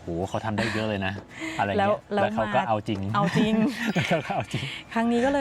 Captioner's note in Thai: เสียงหัวเราะ